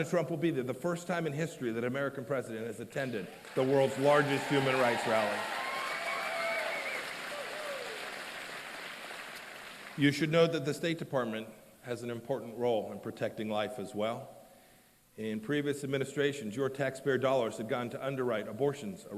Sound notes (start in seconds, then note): 7.7 applause and cheers